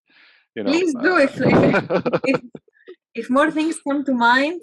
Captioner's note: laughs